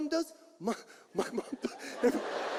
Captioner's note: audience laughs; laughs